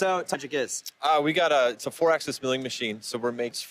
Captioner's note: speaks faintly